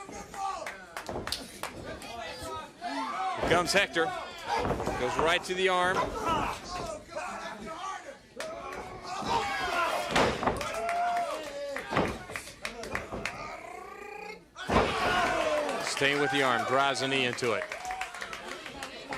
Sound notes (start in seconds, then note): 1.3 crowd chatter; 12.5 crowd cheering